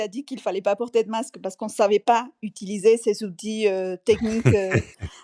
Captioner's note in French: rires